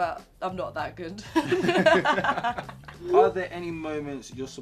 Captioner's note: laugh